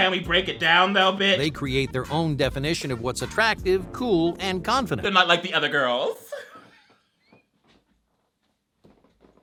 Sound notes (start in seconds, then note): 6.2 laughs